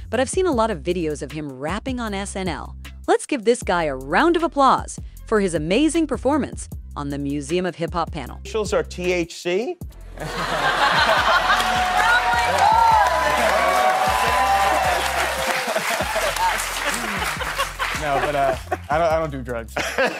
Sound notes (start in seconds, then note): 10.2 laughing; 13.3 cheering